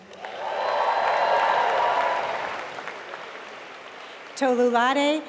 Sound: applause

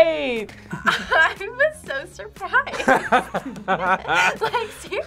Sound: both laugh

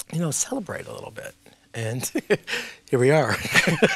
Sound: laughing

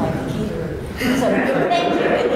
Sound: laughter

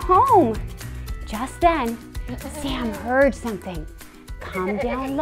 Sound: sheep bleating

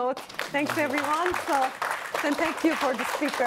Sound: applause

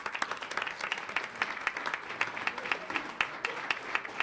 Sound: audience applauds

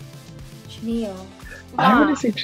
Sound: laughs

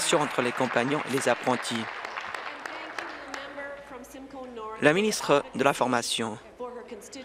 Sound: applause

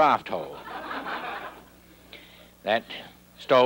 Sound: audience laughing

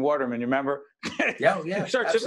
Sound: laughing

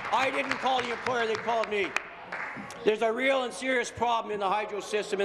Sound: applause

